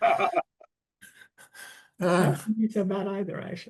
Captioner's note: panel laughs